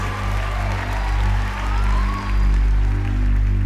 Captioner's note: cheering